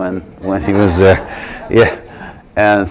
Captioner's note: laughter